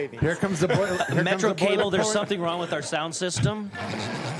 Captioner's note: some Laughter